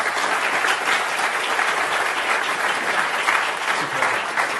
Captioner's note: applause